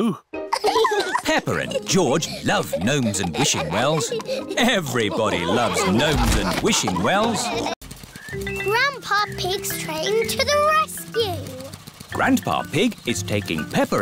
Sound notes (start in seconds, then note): 7.4 all laughing